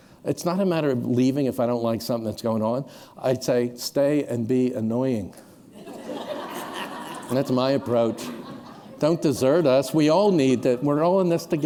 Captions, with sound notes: It's not a matter of leaving if I don't like something that's going on, I'd say, stay and be annoying. [laughter] That's my approach. Don't desert us. We all need that-- we're all in this together.